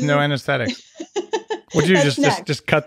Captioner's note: laughing